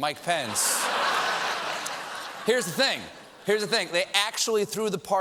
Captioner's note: laughter